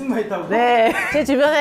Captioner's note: laughs 😅